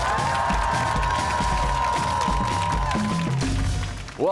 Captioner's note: cheers and applause